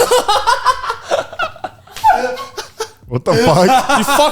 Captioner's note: laugh